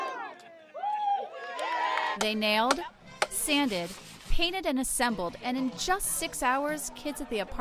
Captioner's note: cheering